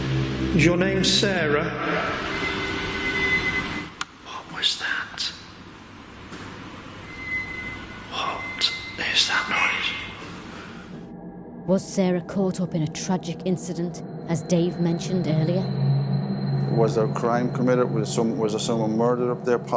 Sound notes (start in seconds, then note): 2.7 eerie wailing; 7.0 eerie wailing